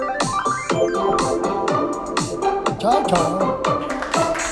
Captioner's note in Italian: Applauso